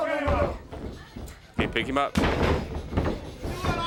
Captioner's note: crowd chatter